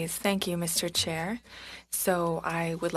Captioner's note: speaking French